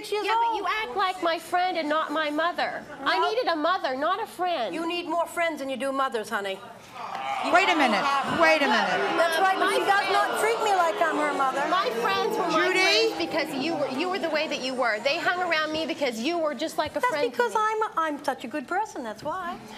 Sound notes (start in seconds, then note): 7.1 audience disagrees